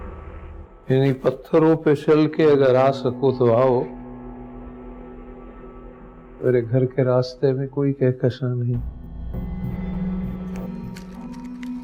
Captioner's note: recites a poetic verse